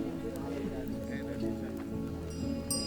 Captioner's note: people murmuring